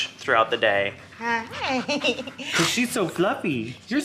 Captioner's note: laughs